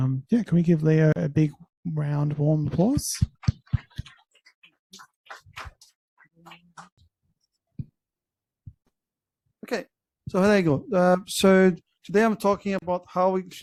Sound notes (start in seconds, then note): 5.2 claps